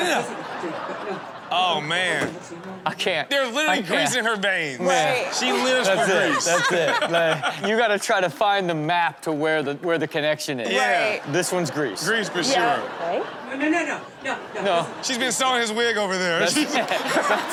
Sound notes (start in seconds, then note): 0.0 crowd laughs; 4.9 crowd laughs; 12.4 crowd laughs; 15.2 crowd laughs; 16.4 laughs